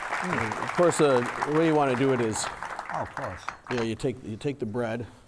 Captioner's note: audience applauding